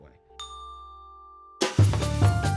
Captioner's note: ding; upbeat music